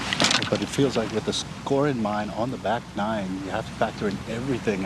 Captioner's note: chatter